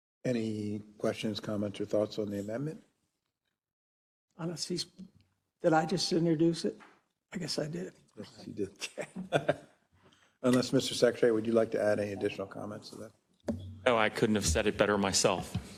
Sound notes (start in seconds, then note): 8.2 laugh